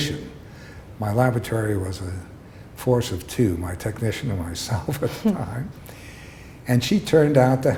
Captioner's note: chuckle